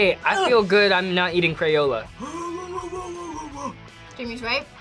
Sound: groans

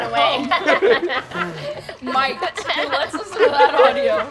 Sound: players laughing

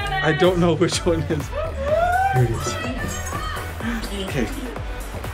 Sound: cheering

